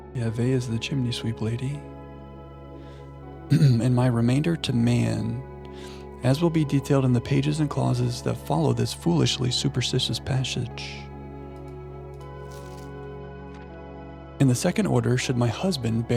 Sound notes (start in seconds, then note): 3.5 clears throat